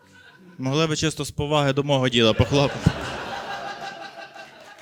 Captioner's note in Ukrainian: оплески